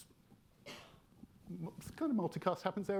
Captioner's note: attendee coughing